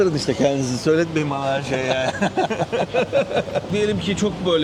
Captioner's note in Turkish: kahkaha